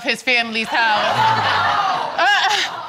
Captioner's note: audience laughs